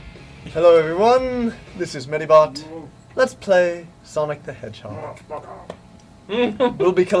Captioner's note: in their friendly Kirby 64 LP voice